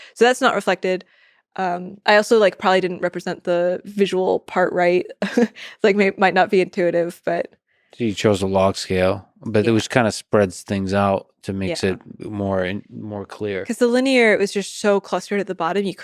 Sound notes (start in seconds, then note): 5.4 chuckles